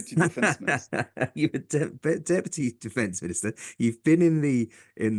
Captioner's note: laugh